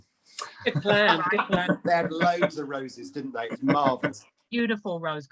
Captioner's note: laughs